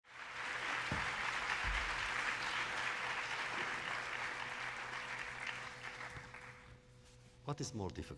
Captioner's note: applause